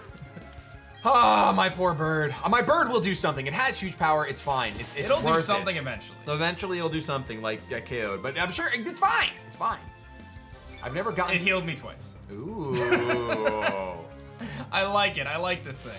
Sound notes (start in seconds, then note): 12.7 laughs